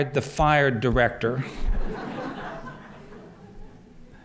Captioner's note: laughter